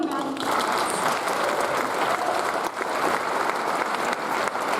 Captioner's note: audience applauds